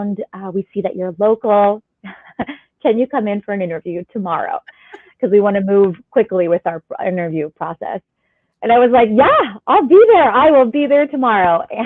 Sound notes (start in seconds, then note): 2.0 laughter